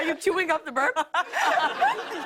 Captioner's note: laughter